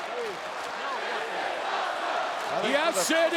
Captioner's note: audience chanting